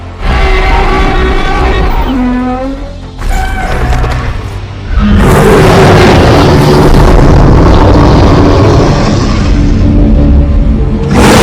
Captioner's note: Godzilla and Kong Roaring loudly